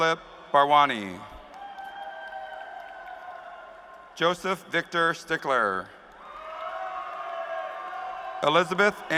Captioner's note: cheers and applause